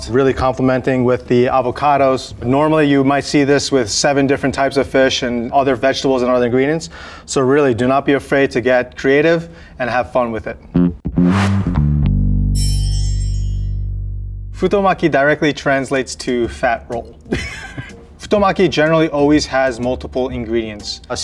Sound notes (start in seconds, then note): 10.7 jaunty music; 10.8 text chimes; 17.2 chuckles